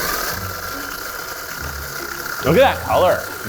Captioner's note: food processor whirring; quirky music